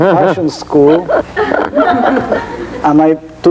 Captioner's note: laughing